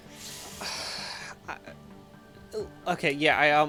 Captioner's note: sighs